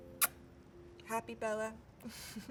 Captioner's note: lips smacking; chuckles